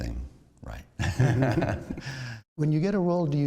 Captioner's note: laughter